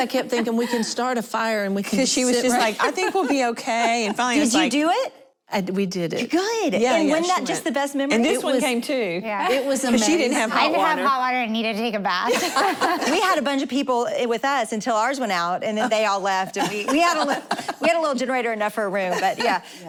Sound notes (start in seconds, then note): 12.3 laughing